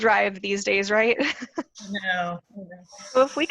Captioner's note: laughs